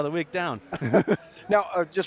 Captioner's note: laughing